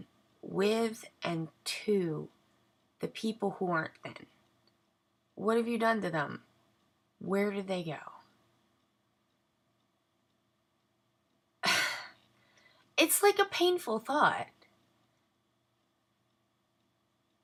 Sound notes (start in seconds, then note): 11.7 sigh